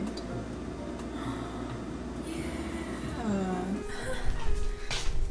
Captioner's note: gasps